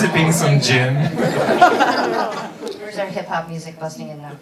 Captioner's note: laughing